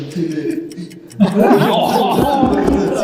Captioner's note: everyone laughs